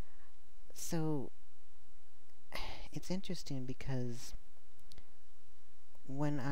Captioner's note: sigh